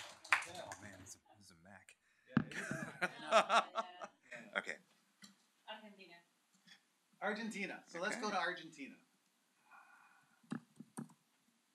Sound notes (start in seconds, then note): 2.5 laughter